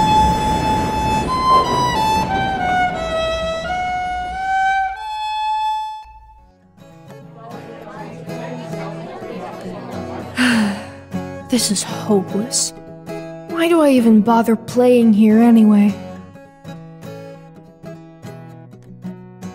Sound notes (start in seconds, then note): 6.9 guitar plays; 10.2 sighs